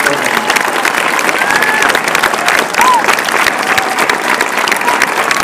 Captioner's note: applause and cheering